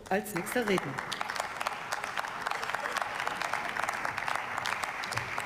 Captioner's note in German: Beifall